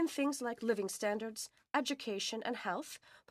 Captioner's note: speaking French